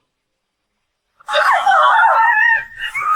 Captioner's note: angry grumbling